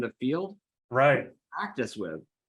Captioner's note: faintly speaking